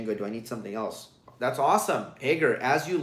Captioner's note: none